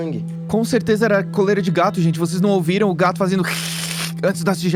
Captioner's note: hiss